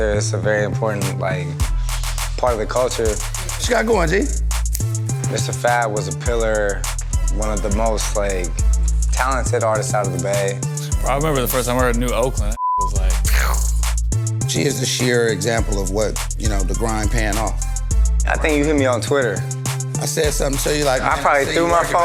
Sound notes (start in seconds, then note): 12.5 beep noise